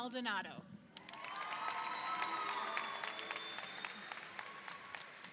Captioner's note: audience applauding